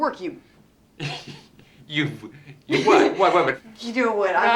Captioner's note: laughs